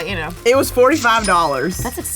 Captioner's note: cash sound